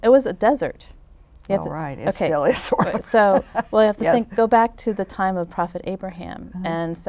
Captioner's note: chuckles